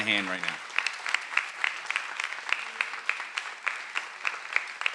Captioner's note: everyone applauding